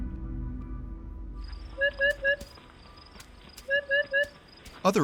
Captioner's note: bird calling repeatedly on recording